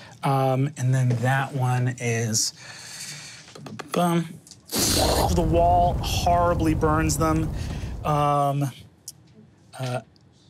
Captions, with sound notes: And then that one is... (hums) The wall horribly burns them. (fire roaring)